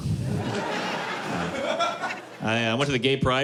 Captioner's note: laughter